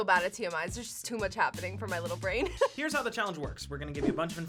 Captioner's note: laughs